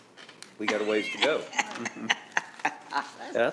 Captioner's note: laughing